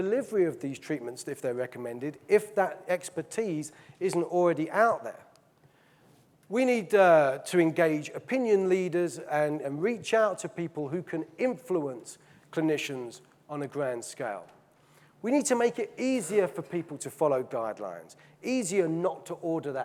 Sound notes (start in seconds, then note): none